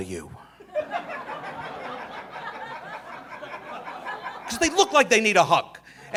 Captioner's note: audience laughing